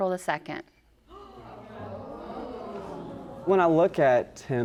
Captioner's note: audience gasps